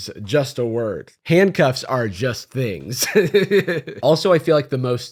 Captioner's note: laughs